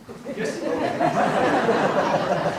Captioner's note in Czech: smích